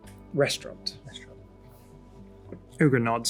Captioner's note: mutters